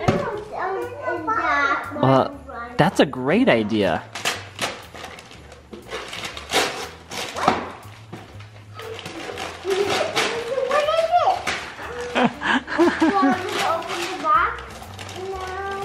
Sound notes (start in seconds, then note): 11.6 laughing